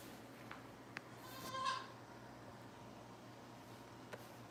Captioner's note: goats bleating